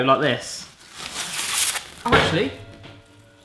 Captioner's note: plastic rustling